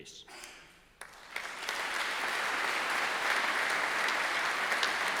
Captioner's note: audience applauding